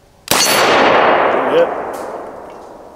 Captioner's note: gunshot